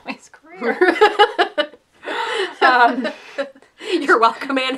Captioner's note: laughter